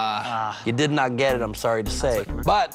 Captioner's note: both groan